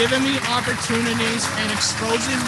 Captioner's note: applause